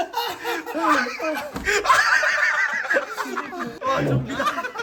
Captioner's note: cry